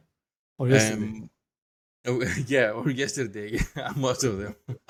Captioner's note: laugh